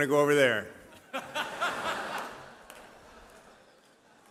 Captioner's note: laughter